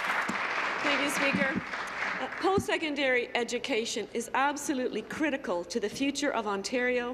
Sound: applause

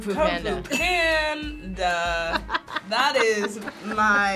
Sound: bell chimes

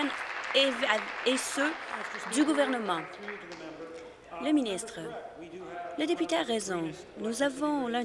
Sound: applause

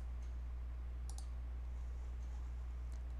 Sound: mouse click

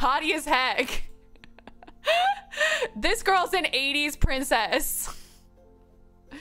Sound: laughs

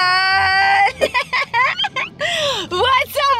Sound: laughs

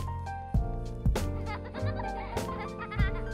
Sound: laughs

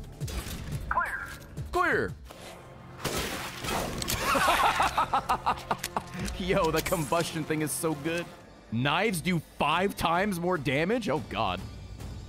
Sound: laughs

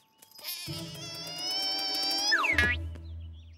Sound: squeaking; wailing

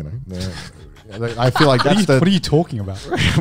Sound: laughs

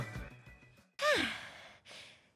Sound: sigh

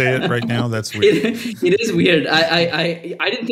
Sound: laugh

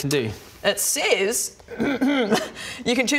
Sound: ahem

